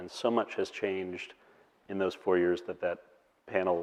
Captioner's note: none